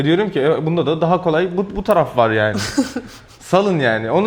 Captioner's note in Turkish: kahkaha